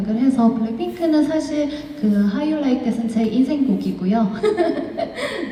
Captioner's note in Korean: 웃음